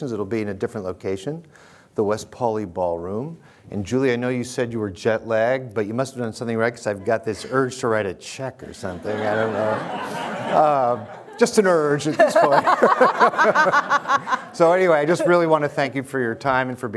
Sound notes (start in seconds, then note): 8.7 audience laughing; 11.9 laughs heartily; 12.1 laughs